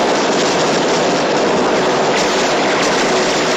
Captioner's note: gunfire